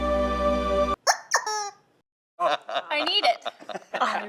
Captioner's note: squeak